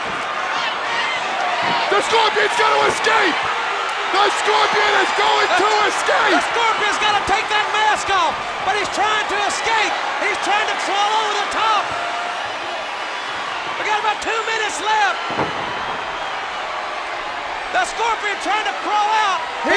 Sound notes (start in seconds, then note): 0.1 crowd cheering; 12.5 crowd cheering; 15.7 wrestler thudding on ring